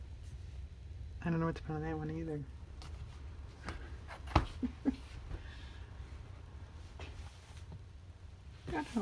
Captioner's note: laughs